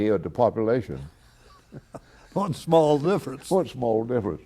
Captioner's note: laughter